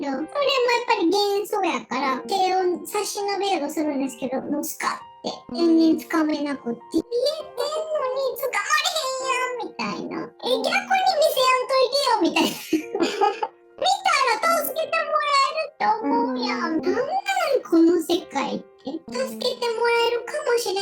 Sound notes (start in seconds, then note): 12.4 laugh